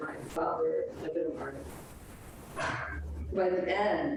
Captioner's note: speaks distorted